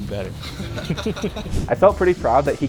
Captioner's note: people laugh